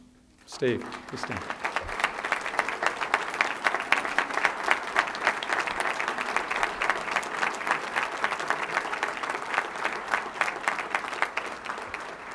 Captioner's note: applause